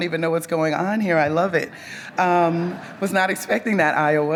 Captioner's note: audience laughs